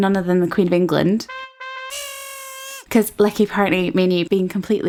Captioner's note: horn honking